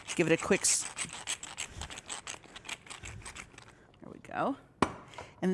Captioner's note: pepper mill grinding